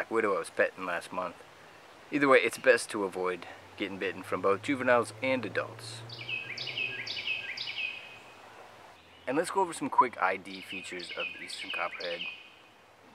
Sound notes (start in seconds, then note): 6.5 Carolina wren singing